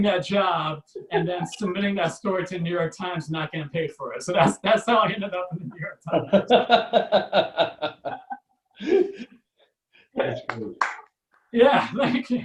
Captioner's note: audience Laughs + Claps